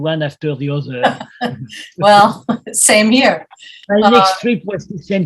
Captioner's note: laughs